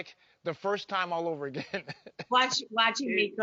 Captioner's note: laugh